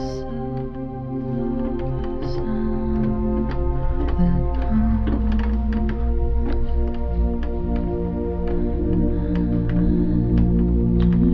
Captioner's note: humming